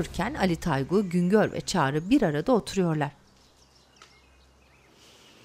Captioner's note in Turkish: Kuş cıvıltısı sesi